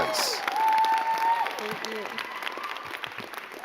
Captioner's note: crowd cheering and clapping